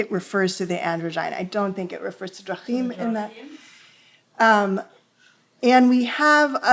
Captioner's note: hebrew